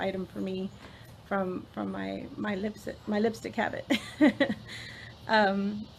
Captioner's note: laughs